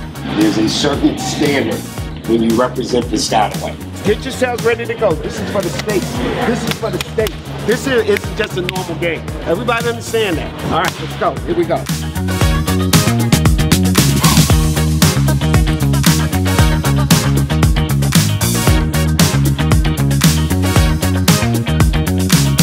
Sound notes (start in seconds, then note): 6.6 clapping